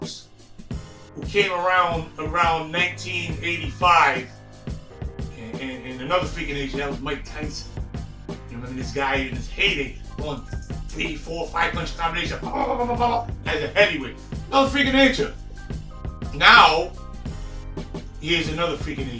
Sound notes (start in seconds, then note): 12.3 fighting noises